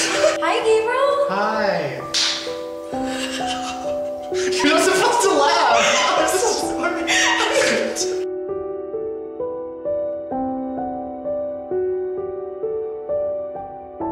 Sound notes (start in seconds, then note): 3.0 laughs; 6.0 still laughing; 8.1 emotional piano music